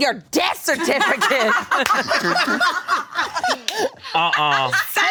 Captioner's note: group laughing